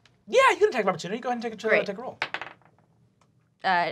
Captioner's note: dice clacking